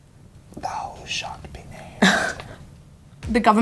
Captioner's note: girl chuckles